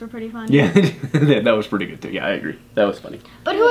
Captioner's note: laughs